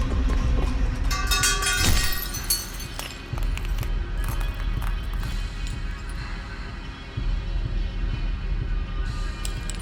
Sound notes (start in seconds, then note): 0.7 slow music continues; 1.1 object clatters; 3.0 glass shatters; 4.7 slow music continues